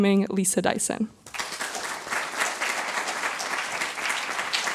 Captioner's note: applause